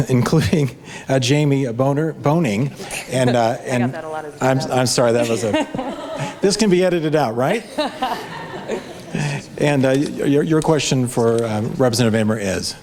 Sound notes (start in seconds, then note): 4.4 audience laughs